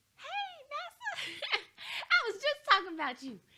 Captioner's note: chuckles